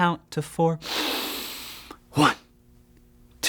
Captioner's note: taking a deep breath